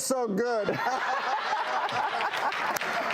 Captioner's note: laughing